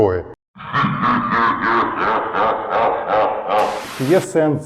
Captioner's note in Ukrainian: злобний сміх